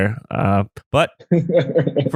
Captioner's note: laughs